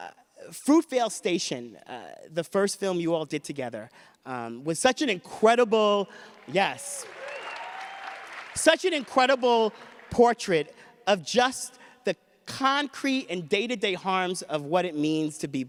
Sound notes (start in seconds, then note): 6.8 audience cheers and laughs